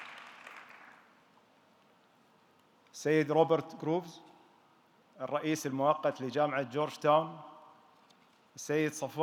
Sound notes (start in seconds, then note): 3.3 speaking in foreign language